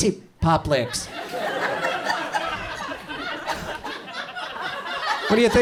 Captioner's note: audience chuckles